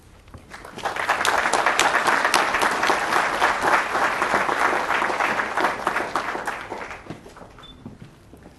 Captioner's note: applause